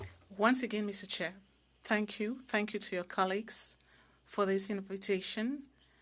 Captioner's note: speaking French